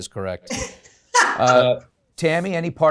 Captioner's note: laughs